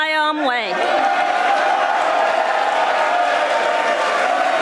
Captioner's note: audience applauding